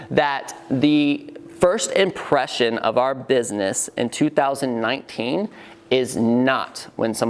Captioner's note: none